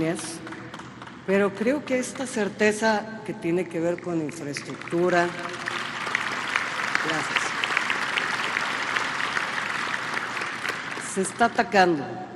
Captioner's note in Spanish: aplausos